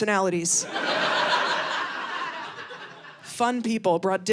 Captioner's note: audience laughing